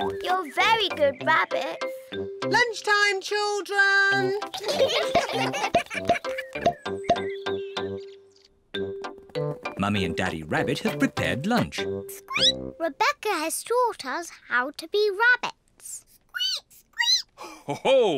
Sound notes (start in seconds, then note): 4.5 all giggling; 12.3 squeaks; 15.8 peppa and george squeak; 17.4 laughs